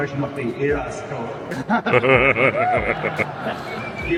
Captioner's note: laughing